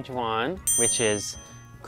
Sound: bell dings

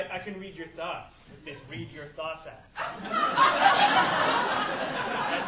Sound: audience laughing

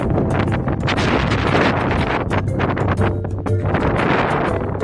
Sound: stormy winds blowing

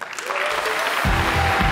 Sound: applause

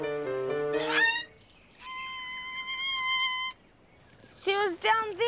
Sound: squawking

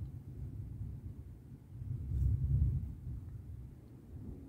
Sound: deep quiet thunder

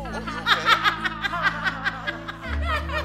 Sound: laugh

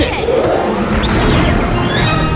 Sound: whoosh; drmatic sound

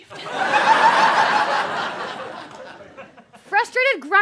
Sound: audience laughter

